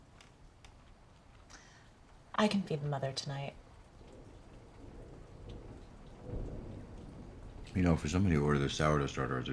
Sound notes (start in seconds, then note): 4.3 thunder rumbling